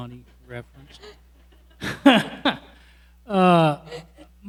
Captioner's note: laughs